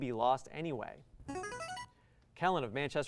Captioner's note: buzzer